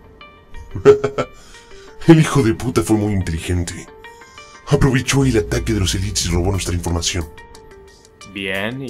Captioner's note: laugh